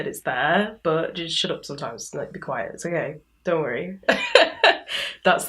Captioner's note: laughs